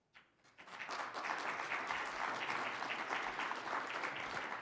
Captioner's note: audience applauding